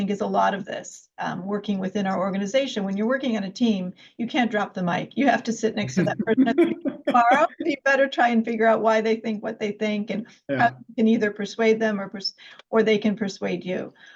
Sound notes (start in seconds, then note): 5.8 laughs